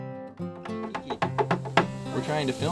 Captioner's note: knocking